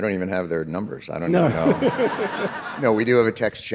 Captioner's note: David and audience laughing